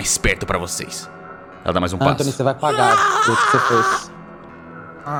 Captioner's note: Sukkal’s groan